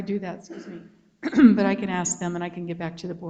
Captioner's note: clears throat